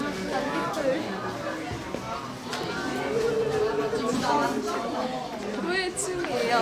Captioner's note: Swish